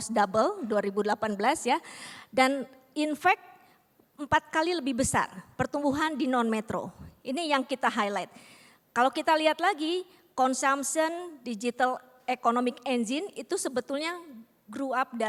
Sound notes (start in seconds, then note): 0.2 non-english speech; 5.2 non-english speech